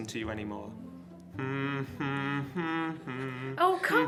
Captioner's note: British Scone humming